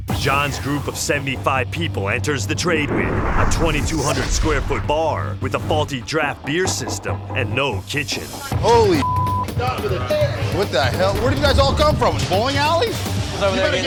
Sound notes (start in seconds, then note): 9.0 beep